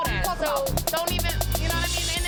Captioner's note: beep